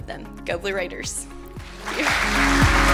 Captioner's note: applause